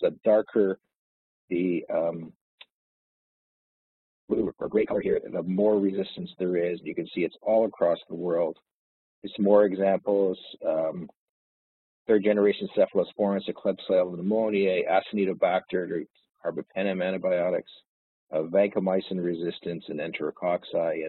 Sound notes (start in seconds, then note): 16.6 audio distorts